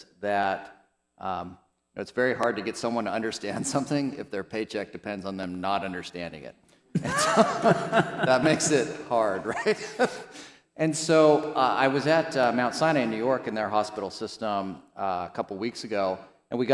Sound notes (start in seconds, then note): 6.9 panelists chuckle; 10.1 chuckles